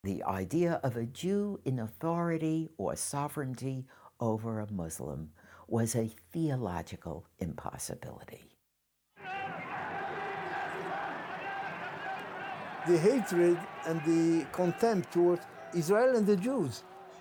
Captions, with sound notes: The idea of a Jew in authority or sovereignty over a Muslim was a theological impossibility. (clamoring) - The hatred and the contempt towards Israel and the Jews